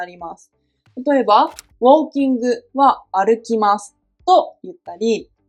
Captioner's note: walking